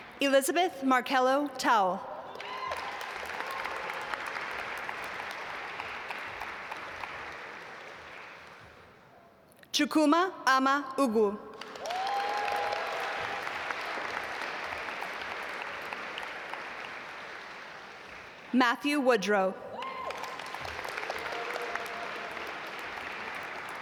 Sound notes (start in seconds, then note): 2.3 audience applaud; 11.5 audience applaud; 19.7 audience applaud